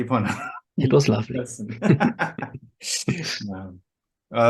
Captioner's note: they laugh